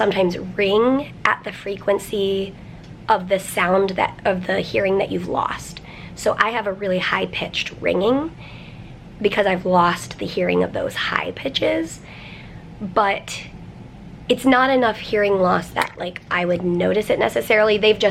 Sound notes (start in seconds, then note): none